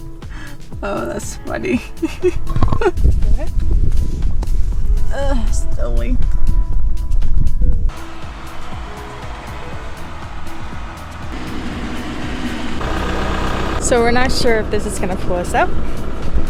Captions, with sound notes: oh, that's funny. *laughs* uh, stowing. So we are not sure this is going to pull us out,